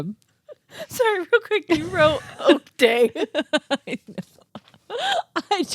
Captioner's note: laughs